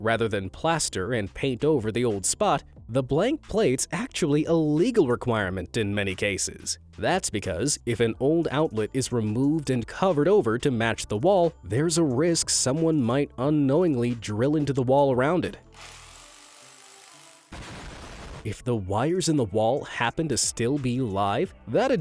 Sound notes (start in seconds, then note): 15.6 drill whirring; 17.5 wall exploding